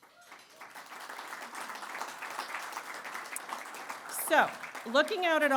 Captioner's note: applause